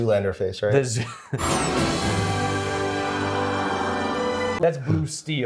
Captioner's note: laughs